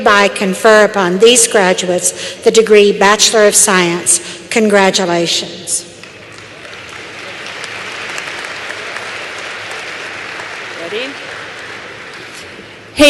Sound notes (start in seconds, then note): 6.0 applause